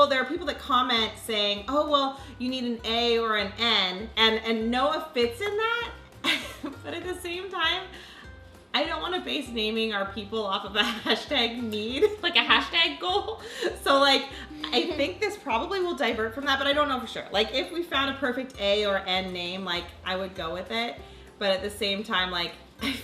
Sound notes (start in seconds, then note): 6.2 laughs